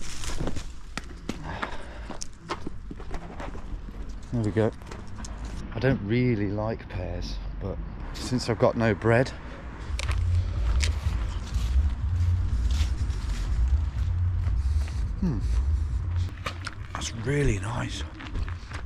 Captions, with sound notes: (leaves rustling) There we go, I don't really like pears, but since I've got no bread. (pear crunches) Hmm, that's really nice